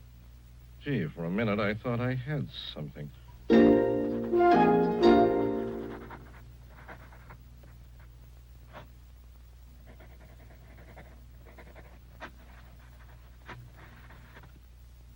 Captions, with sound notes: Gee, for a minute I thought I had something. [SOFT MUSIC] [PENCIL SCRATCHING SOFTLY]